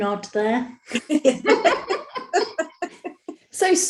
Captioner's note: soft laughing